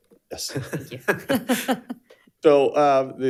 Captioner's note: chuckles